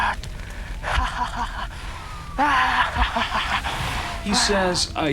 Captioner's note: crazed laughing